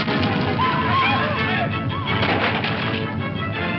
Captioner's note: whooping